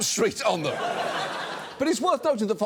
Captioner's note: studio audience laughs